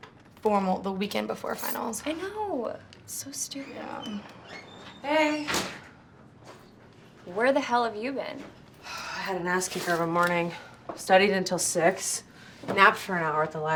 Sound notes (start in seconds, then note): 3.4 door creaking; 8.7 sighs